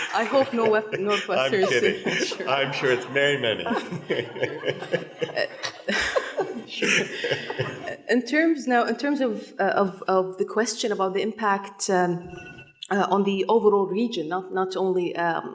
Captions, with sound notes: - I hope Northwestern-- - I'm kidding, I'm sure it's very many. (chuckles) - In terms now, in terms of the question about the impact on the overall region, not only Qatar,